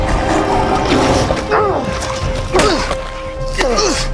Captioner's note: grunting